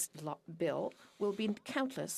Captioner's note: speaking French